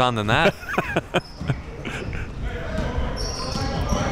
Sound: laughing

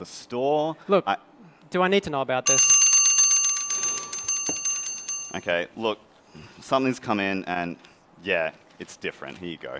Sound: bell

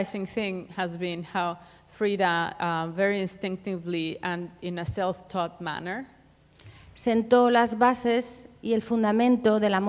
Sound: speaking Spanish

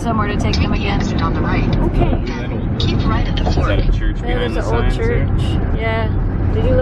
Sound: GPS talking

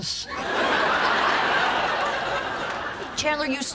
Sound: audience laughing

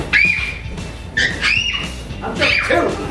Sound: bed creaking; children squeal

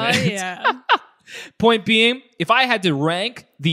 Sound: laughs

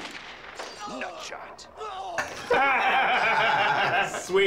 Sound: laughing

